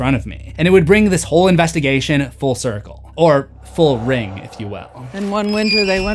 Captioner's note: ring